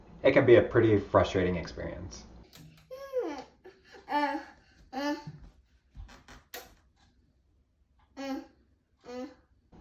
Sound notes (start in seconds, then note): 2.9 child whines